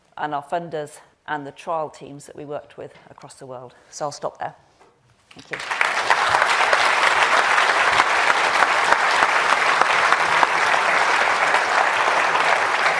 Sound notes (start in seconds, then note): 5.4 audience applauds